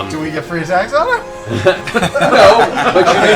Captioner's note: laughter